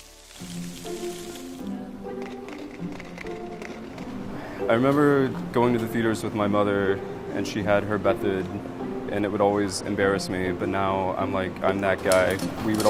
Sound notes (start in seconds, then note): 0.1 playful music; 2.1 popping